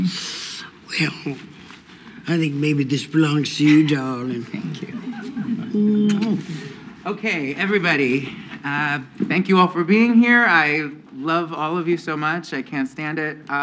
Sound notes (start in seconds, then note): 5.9 kisses